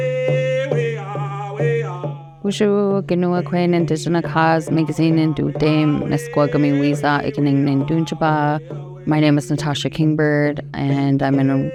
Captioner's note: speaking native language